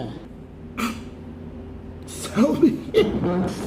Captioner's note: snickers